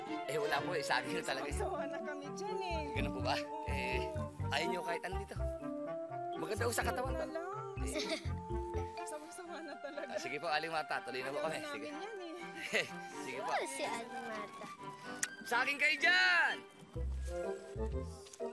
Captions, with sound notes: -There’s none, just bananas. -We’re already sick of it. -Is that so? -Yes. So you don’t want any? -It’s good for the body. -Maybe next time. [chuckles] We’re really sick of it. All right, Miss Martha, we’ll go ahead. -We don’t want any of it. -[chuckles] -All right. -Goodness, Miss Martha. Bananas for sale! [joyful music playing]